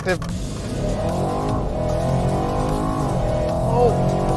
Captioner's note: engine revving